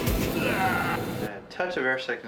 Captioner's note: pilot gagging